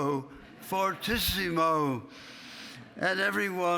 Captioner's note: laughing